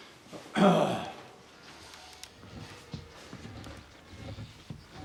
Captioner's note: Parson clears throat